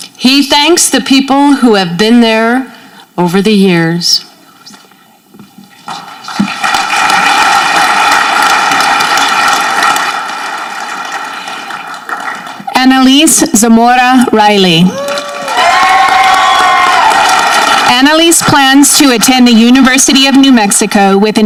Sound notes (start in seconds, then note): 5.9 audience clapping; 14.8 audience cheering